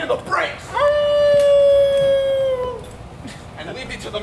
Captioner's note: Oberon howls